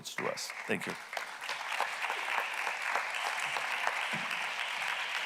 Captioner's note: audience clapping